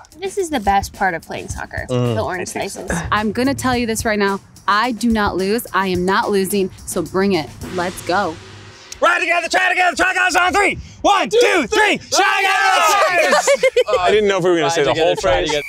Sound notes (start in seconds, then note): 11.0 chanting together; 12.6 laughing